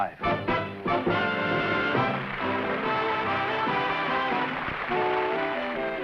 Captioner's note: applause